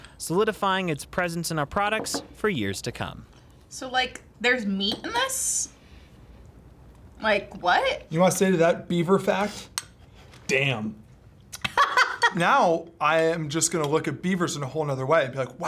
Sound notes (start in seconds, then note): 11.6 laughs